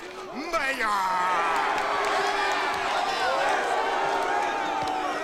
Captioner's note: crowd cheers